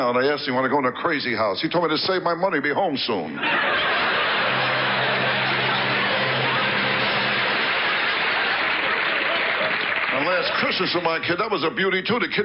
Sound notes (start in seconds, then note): 3.4 audience laughs; 4.3 orchestra riffs